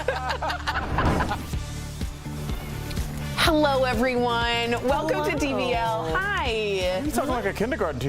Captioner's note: laughter